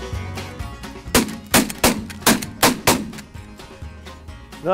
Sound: gun shots

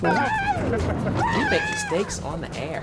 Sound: yells

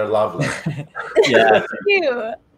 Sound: chuckles

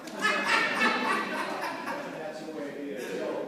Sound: laughter

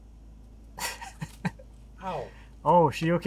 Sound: laughs

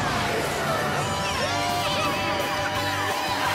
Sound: all cheering

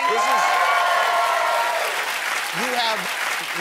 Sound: audience cheering

